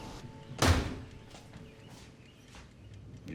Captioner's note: door thudding